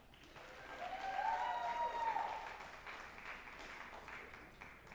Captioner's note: group applauding and cheering